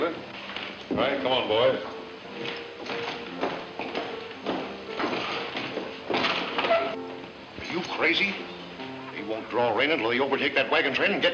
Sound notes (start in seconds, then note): none